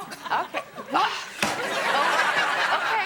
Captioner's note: audience laughing